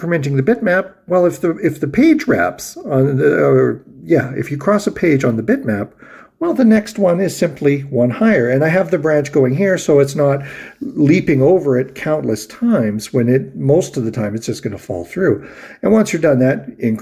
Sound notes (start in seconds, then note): 2.9 stammers